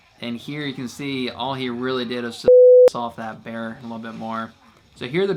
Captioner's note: beep